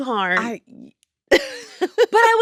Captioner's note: laughs